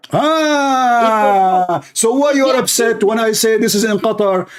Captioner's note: Ketawa